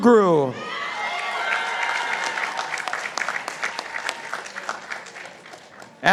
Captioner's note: participants applauding